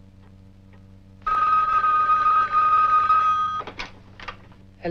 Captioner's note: phone Ringing